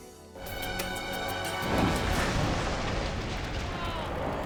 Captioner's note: explosion booming